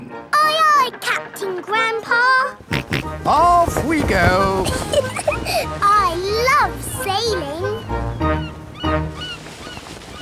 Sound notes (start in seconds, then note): 2.6 snorts; 2.7 giggles